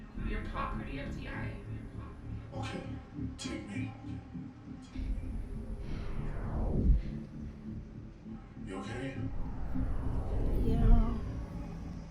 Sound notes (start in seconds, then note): 6.7 heavy swishing